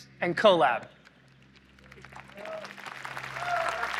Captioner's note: applause